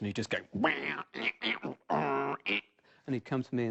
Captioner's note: wails